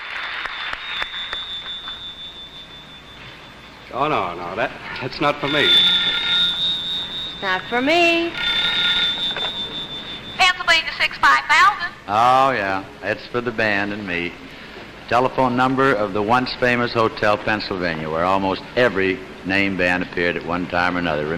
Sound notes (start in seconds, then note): 3.9 phone Ringing; 8.3 phone Ringing, Click